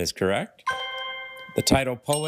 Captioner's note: bell dings; triumphant chime